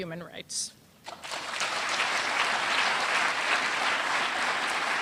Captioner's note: applause